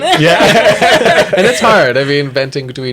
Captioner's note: laughter